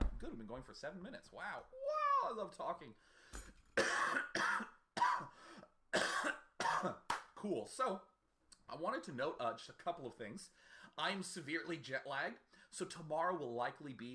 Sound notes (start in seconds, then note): 5.9 coughing intensifies